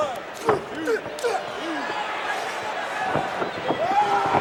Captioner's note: wrestlers grunting